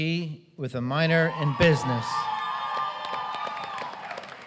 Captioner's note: applause